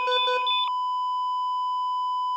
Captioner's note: beeping